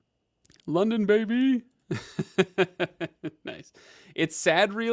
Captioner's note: laughs happily